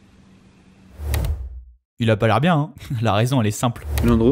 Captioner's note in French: rire